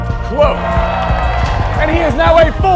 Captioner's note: crowd cheering